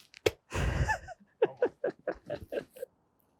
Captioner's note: laughing